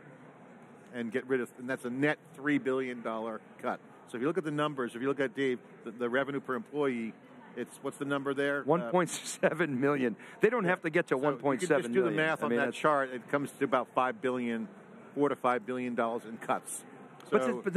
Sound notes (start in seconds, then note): 9.1 chuckles